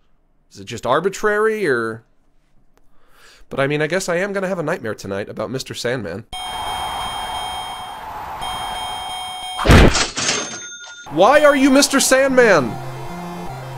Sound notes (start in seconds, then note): 6.2 bell dings; 8.1 crowd cheering; 9.6 cash register dings